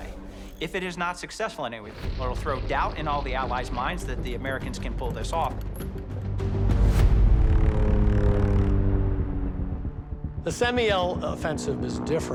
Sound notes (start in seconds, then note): 7.5 airplane engines roaring